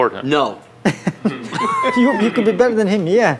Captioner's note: laughs